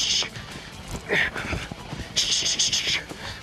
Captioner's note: hisses; grunts; hisses